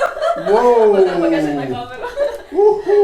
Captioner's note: laughs